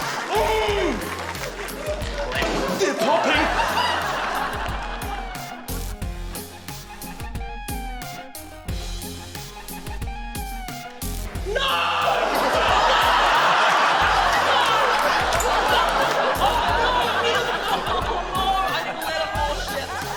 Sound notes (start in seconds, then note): 0.0 groans; 0.3 groans in frustration; 2.3 pop!; 5.1 upbeat electronic music; 13.5 laughter